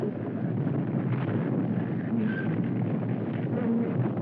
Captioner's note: hull Creaking